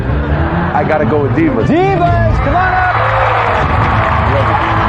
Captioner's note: cheering and applause